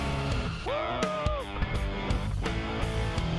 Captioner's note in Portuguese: grita